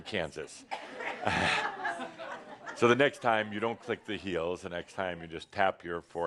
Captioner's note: some chuckles